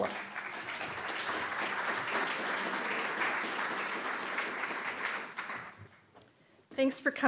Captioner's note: applause